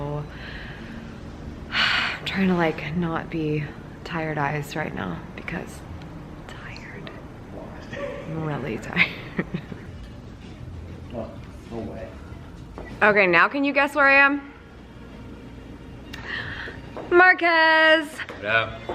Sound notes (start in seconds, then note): 1.8 sigh